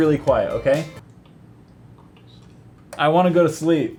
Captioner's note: whisper